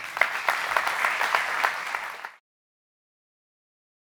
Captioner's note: audience applauding